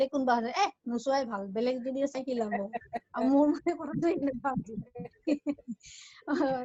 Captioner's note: laughs